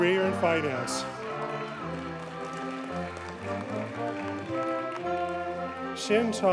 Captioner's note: audience cheers and applauds